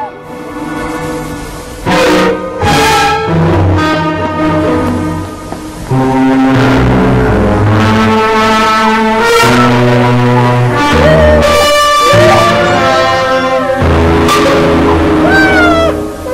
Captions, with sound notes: [suspenseful music playing] Minda. My daughter. [young Minda crying]